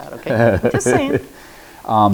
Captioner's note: chuckles